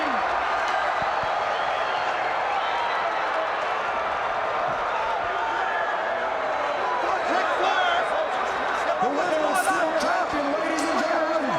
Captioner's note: crowd chatter